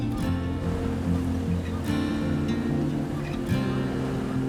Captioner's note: water splashing